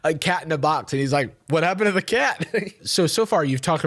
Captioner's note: laughs